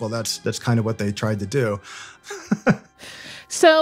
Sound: laughs

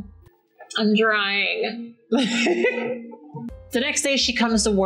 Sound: laughs

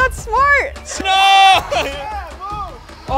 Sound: screams

